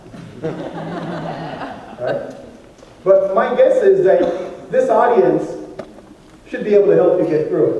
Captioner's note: laughter